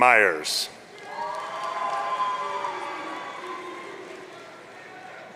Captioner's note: audience cheering